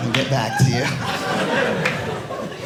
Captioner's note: audience laughing